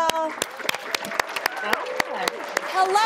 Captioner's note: audience applaud, cheer